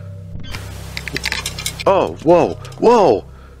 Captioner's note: fence Rattle